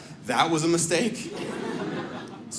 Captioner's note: audience laughs